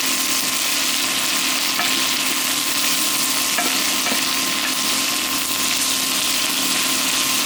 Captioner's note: sizzling